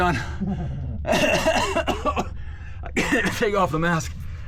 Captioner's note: coughs